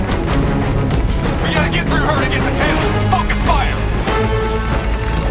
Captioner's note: hendricks over radio